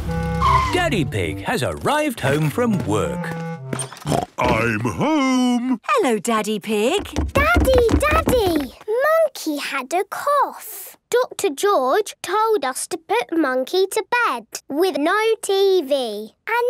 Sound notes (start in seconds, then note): 4.0 snort